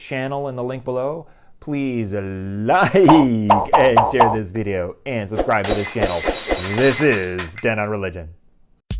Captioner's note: glass breaking